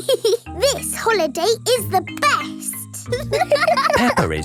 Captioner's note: giggles; laughing